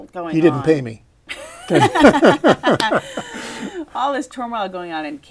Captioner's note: laughter